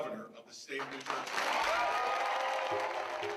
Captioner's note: applause and cheering